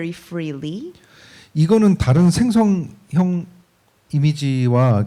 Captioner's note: speaking korean